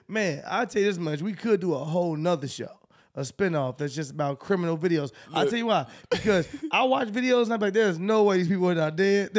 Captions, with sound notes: Man. I can tell you this much. We could do a whole nother show, a spinoff. That's just about criminal videos. I'll tell you why, (laughs) because I watch videos and I'll be like, "There's no way these people are not dead."